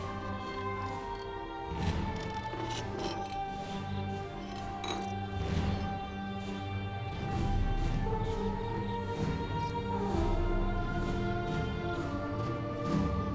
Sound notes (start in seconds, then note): none